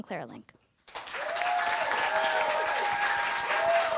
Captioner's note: applause